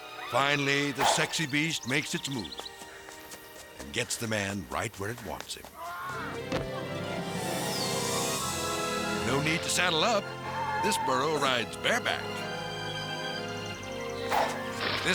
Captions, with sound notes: Finally, the sexy beast makes its move and gets the man right where it wants him. (person yelling and thudding) No need to saddle up. This borough rides bareback. (slow romantic music)